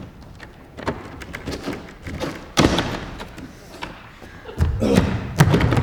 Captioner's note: door slams shut; door opens; stumbling footsteps